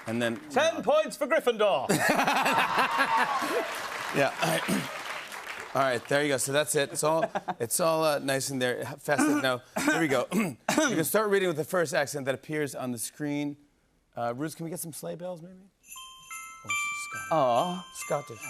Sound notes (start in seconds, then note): 1.9 laughter and applause; 9.1 both clear throat; 9.1 clears throat